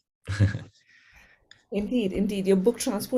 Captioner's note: laugh